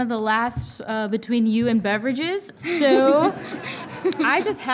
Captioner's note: all laughing